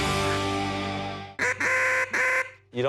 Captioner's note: quacking